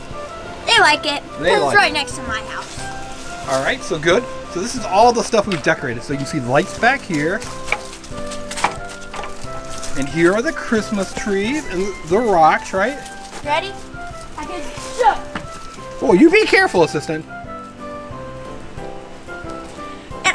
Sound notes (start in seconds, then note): 8.3 lights thuds; 14.6 foots stomps